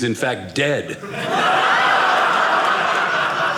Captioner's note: audience laughing